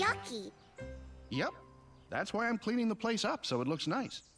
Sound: none

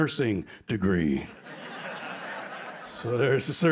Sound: laughter

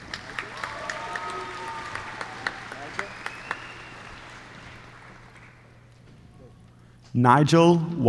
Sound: applause

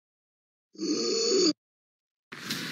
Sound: Ruby breaths in so hard

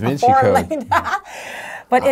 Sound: laughing

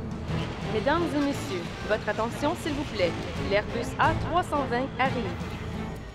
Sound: woman speaking foreign language

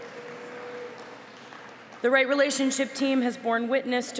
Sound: applause

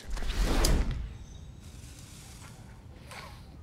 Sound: wooshing

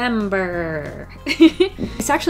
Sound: laughs

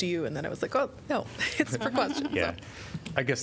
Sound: laughter

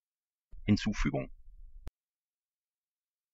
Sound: fast Pronunciation

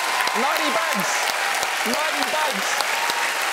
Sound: clapping; shouting

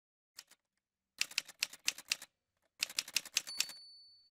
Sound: typewriter sounds

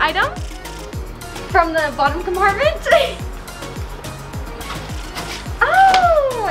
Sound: laughs

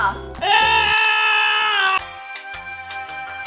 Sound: grunting

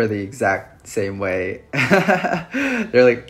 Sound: laughs

